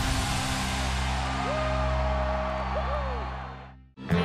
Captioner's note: cheering